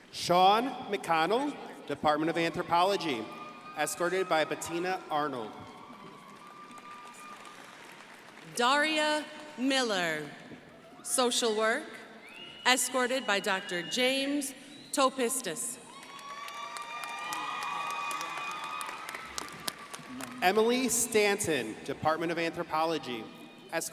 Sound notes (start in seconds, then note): 6.0 crowd applauding; 15.8 crowd applauding